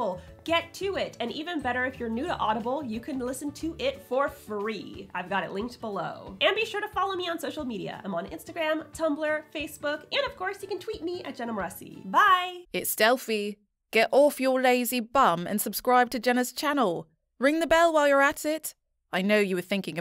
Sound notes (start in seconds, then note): 12.6 confident Female Voice